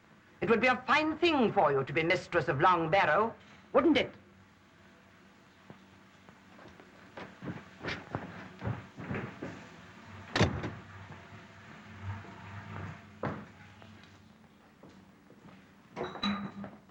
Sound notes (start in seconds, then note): 10.3 door slams; 15.8 bottles clinking